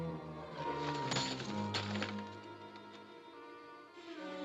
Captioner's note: thump; coins clinking; ominous music